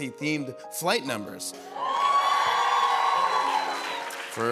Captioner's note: cheering